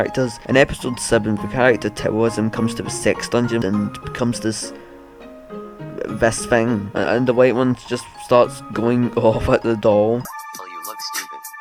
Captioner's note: chuckle